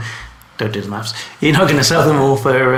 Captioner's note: laughing